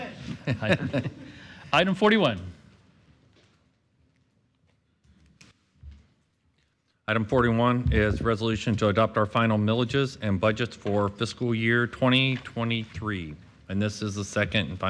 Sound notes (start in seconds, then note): 0.0 laughter